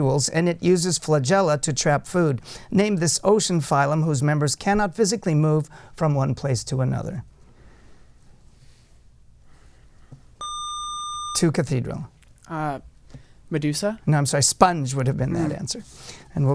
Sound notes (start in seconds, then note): 10.4 buzzer